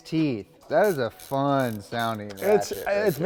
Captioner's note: ratchet teeth clicking